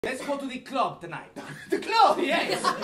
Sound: Italian accent

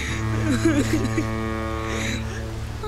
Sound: sobbing

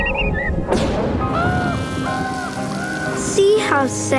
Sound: raining

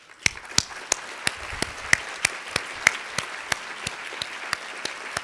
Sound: audience Applauds

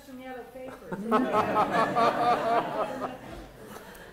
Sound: laughter

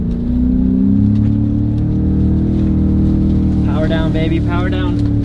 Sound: engine roars

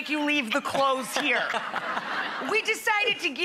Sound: laughing

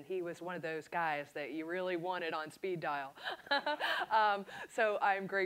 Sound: laughs

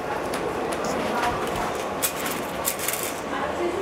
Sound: machine whirring and rattling in the background

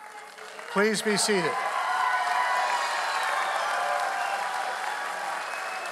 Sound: audience applauding

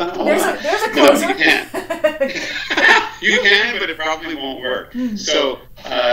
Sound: laughs

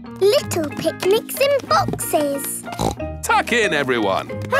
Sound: snorts

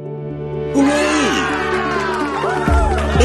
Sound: ethereal music; crowd cheers

